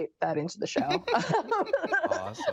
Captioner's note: laughter